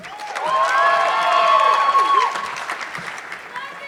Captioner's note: audience clapping